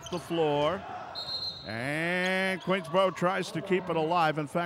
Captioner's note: whistle blows